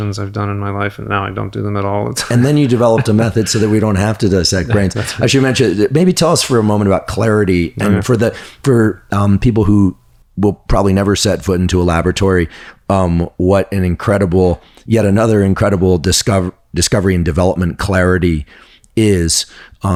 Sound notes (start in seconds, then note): 2.0 laughs; 5.4 chuckles